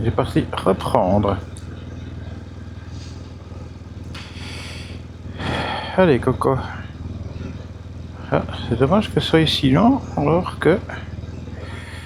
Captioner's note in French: soupir